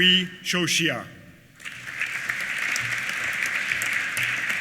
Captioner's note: applause